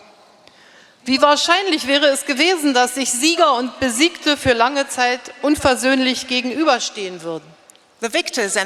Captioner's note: speaking in German